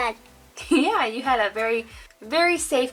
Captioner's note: giggles